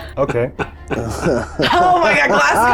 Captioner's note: participants chuckling